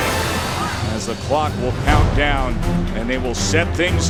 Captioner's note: voiceover